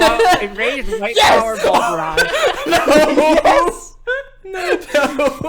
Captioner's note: everyone starts laughing; everyone continues to laugh